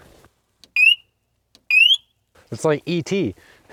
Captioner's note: operator chirping